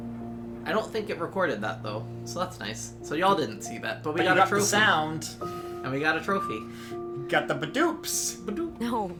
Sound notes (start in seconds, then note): 7.5 makes the achievement sound